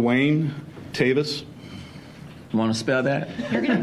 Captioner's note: laughter